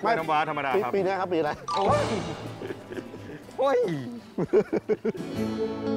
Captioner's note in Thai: เสียงหัวเราะ